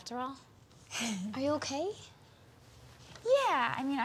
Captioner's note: Eliza sighs